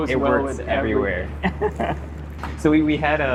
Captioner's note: chuckles